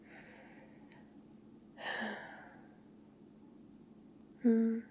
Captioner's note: contented sigh